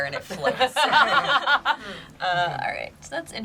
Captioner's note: group laughs